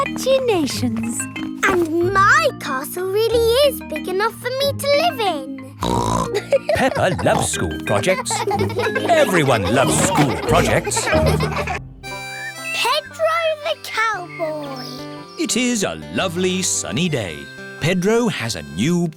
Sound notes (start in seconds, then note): 5.8 snorts and laughs; 6.2 children laughing